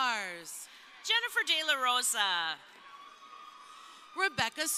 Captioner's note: crowd cheering